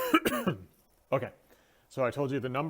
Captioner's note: cough cough